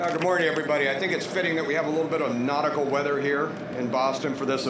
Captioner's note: applause